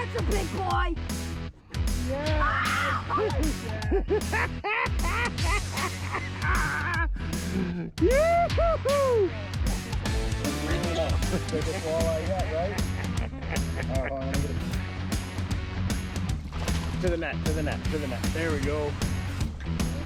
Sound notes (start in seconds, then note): 4.7 laughing